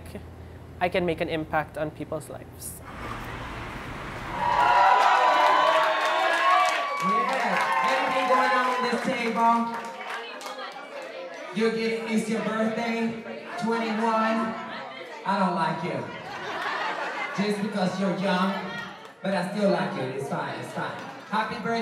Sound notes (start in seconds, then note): 4.0 cheering